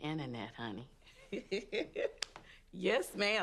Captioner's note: Effa laughs